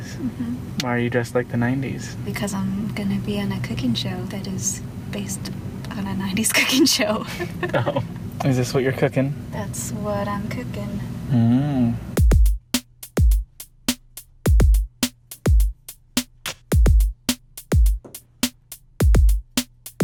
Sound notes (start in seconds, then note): 7.5 laughs; 8.3 laughing; 12.2 drum beat